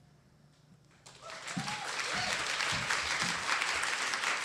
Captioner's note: audience applauds